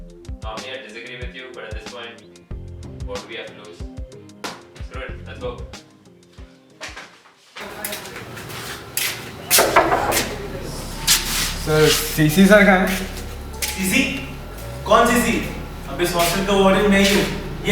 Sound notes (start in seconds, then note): 9.5 knocks on door